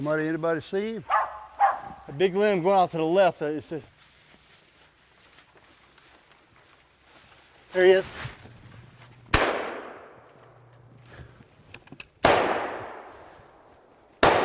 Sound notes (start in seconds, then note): 9.3 booming